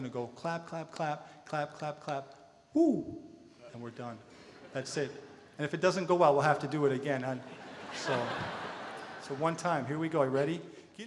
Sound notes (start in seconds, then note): 7.4 audience laughter